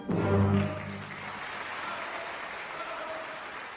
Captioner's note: clapclapclapclapclap